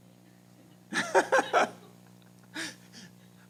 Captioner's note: laughter